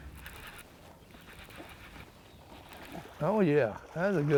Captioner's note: fishing pole reeling